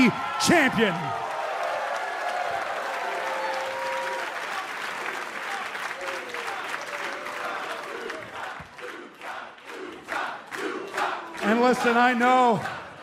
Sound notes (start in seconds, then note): 1.8 cheers and applause; 10.1 fans chanting